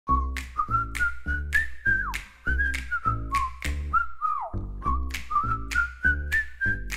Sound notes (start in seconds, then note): 0.0 whistling